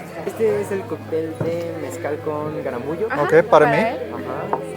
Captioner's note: speaking Spanish